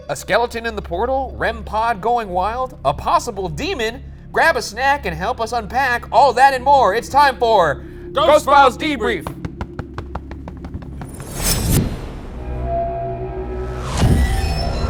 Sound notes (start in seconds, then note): 9.2 hands thumping; 12.1 eerie music